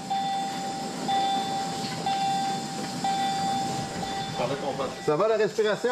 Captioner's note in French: bips du moniteur